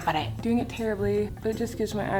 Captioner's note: none